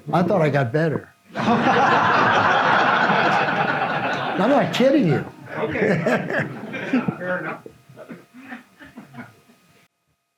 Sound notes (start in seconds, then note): 1.3 audience laughs